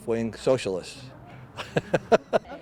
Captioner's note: laughter